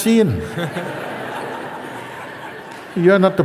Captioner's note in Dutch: gelach